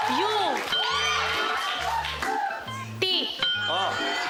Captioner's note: cheering